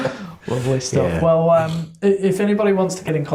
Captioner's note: laughing; sing song comment